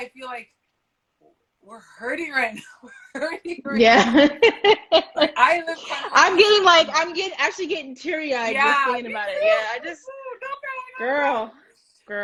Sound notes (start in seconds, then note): 2.5 laughs